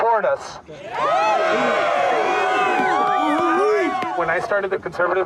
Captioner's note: group cheering